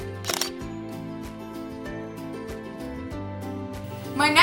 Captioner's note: shutter sound